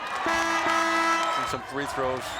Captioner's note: buzzer rings